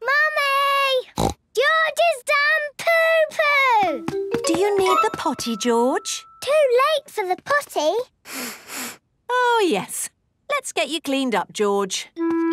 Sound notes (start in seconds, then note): 1.2 snorts; 8.2 sniffs